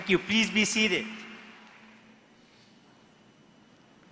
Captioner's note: applause